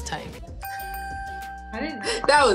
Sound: chiming sound

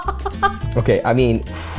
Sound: laughing

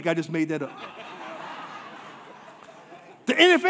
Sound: congregation laughing

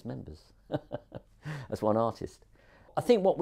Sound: chuckles

